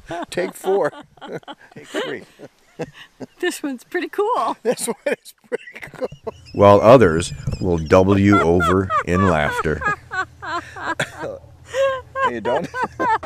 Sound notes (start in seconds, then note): 0.0 laughter; 4.4 laughing; 10.8 laughing